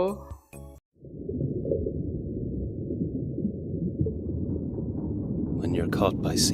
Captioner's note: underwater blugglubfjf